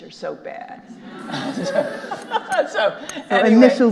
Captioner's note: all laughing